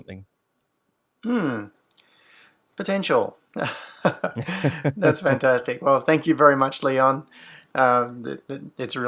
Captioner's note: laughs